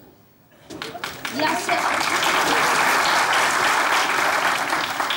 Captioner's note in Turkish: Alkış sesleri